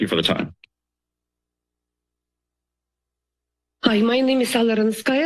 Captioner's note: silence